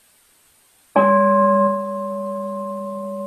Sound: bowl rings

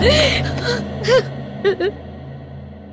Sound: crying

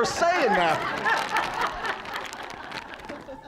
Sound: all laughing

